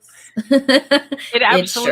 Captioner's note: laughs